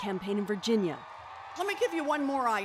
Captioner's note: cheers and Applause